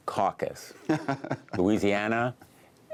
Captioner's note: laughter